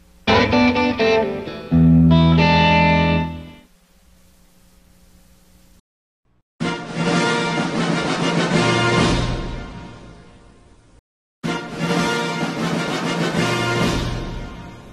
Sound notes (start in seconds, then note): 0.2 blues music playing; 4.0 silence; 6.7 rousing fanfare plays; 11.4 rousing fanfares continuing